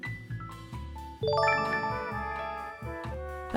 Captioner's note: chime